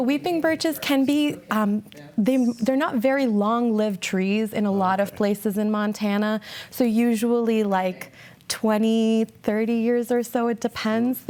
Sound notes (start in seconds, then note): none